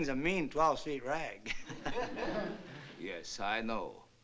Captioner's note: laughs